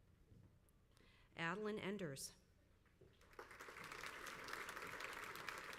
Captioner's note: crowd applauds